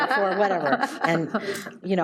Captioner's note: audience laughs